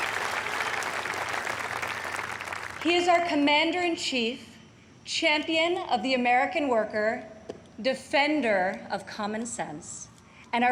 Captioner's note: applause